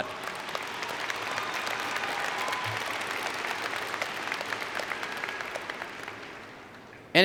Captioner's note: applause